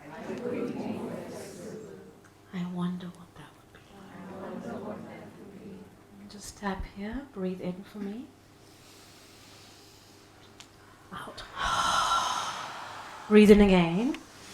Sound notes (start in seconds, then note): 8.6 people inhaling; 11.5 people exhaling